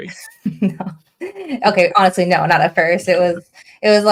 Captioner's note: laughing